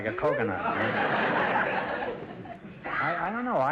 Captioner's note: audience laughter